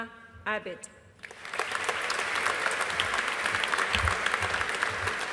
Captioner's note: audience applauding